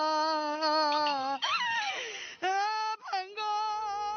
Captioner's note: crying sound